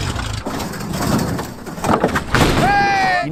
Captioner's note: engine roaring; metal cracking; thunder crashes